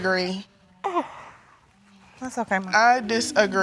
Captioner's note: sobbing